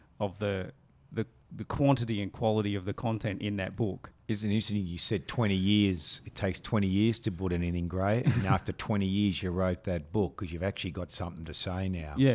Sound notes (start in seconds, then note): 8.2 chuckling